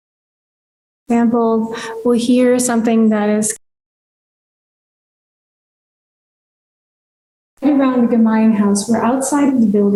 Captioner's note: audio cuts out